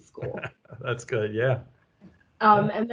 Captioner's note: laughing